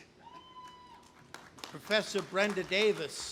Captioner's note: audience applauding